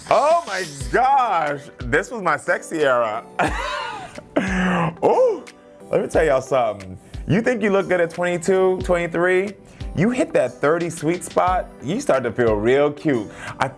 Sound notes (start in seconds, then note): 3.3 Karamo laughing